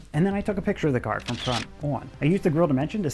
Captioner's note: camera clicks